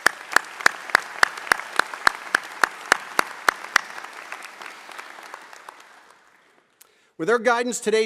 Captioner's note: applause